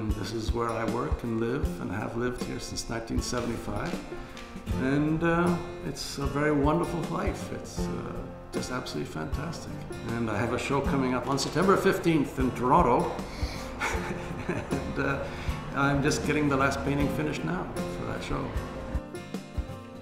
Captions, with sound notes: This is where I work, and live and I have lived here since 1975. It's a very wonderful life, it's just absolutely fantastic. I have a show coming up on September 15th, in Toronto (laughs) I'm just getting the last painting finished now for that show.